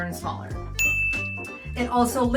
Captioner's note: bell dings